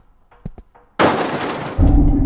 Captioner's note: loud noise